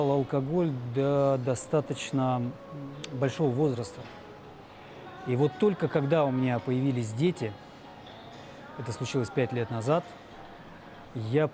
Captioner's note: speaking russian